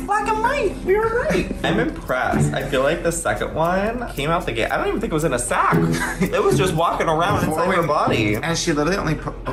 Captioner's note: laughter